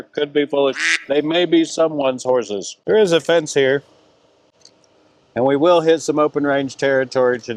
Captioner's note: quack